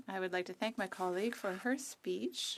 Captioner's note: speaking French